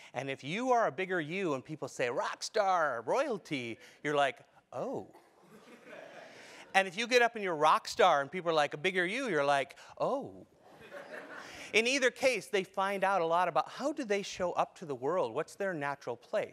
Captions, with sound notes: And if you are a bigger you, and people say, rock star, royalty, you're like, oh. >> [LAUGH] >> And if you get up, and you're a rock star, and people are like, a bigger you, you're like, oh. >> [LAUGH] >> In either case, they find out a lot about how do they show up to the world. What's their natural place?